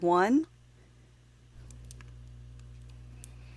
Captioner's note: silent